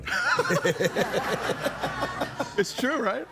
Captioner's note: crowd laughing